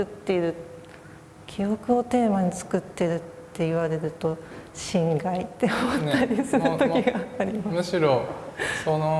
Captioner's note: laugh